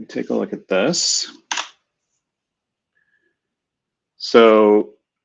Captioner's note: typing